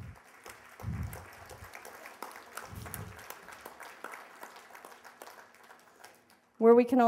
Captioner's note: applause